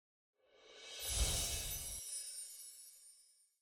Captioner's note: chimes tinkling